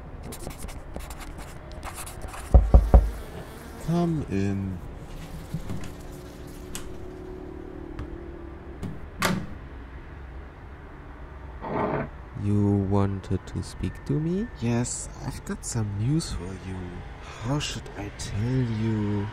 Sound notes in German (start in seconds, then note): 2.5 Klopf Klopf; 11.6 Stuhl Verschieben